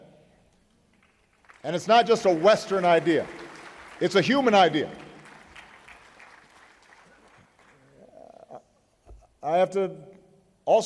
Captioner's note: applause